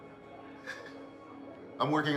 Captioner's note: Tom laughs